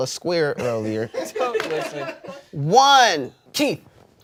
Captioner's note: everyone laughs